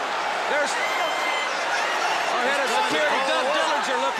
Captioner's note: crowd chatter